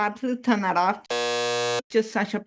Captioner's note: buzzer sound